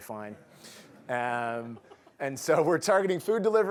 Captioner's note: laughter